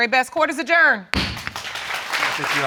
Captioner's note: audience applauds